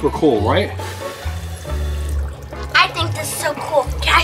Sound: blowing

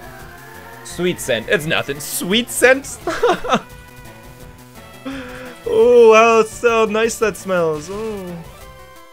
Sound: laughs

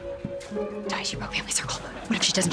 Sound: whispering

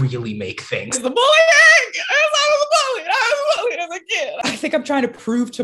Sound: distressed noises

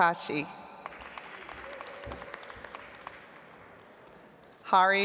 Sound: audience applauds

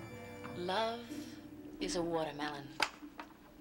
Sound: recorded voice

